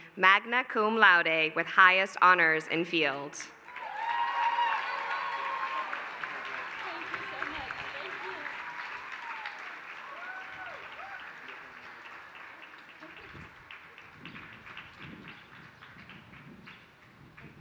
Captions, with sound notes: magna cum laude with highest honors in field. [APPLAUSE]